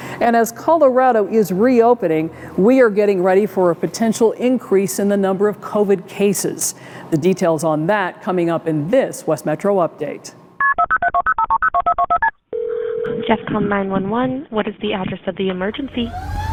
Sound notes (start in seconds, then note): 10.6 phone dial beeping; 16.1 siren wailing